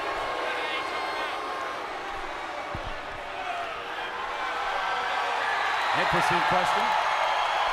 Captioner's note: crowd chatter; crowd cheering